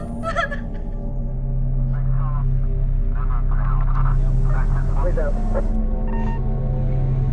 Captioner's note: police Radio